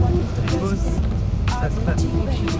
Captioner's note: big bumps